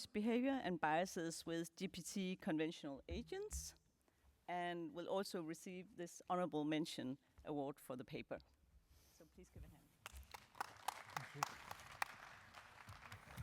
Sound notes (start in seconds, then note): 10.0 applause